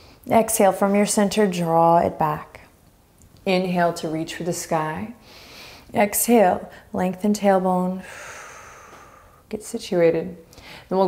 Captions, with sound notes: Exhale, from your center draw it back. Inhale to reach for the sky (inhaling deeply). Exhale, lengthen tailbone (exhaling strongly). Get situated.